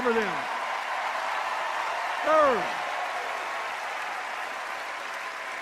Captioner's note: cheers and applause